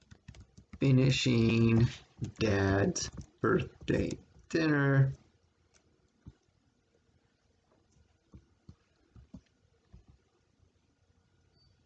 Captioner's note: click of trackpad